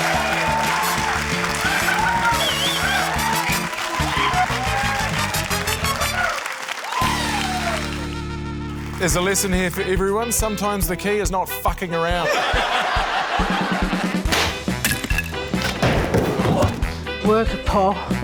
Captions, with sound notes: There's a lesson here for everyone ― sometimes the key is not fucking around. (LAUGHTER) (POP!) (THUD!) - Work it, Paul.